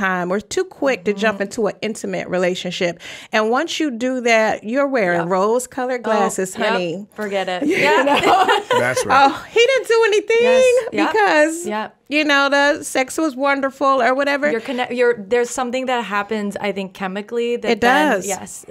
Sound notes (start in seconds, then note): 7.6 laugh